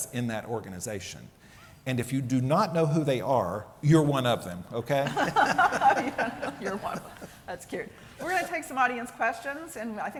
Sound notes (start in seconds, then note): 5.0 laughter